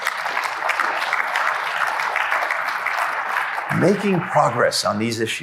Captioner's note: applause